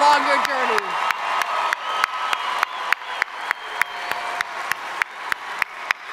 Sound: audience cheering and applauding

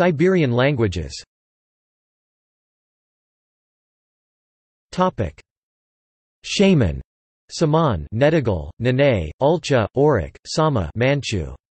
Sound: manchu

